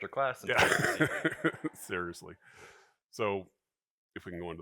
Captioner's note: laughs